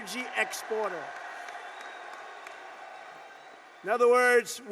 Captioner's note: applause